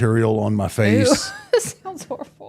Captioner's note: laughs